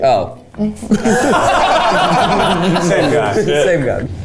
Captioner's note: everyone laughing